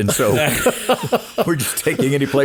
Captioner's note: all laughing